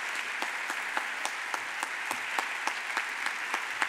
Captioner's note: audience applauds